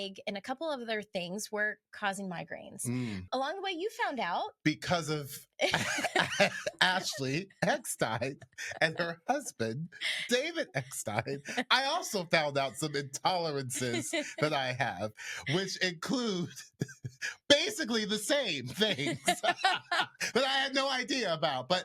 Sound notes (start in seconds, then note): 19.7 laughs